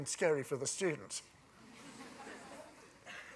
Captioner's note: laughter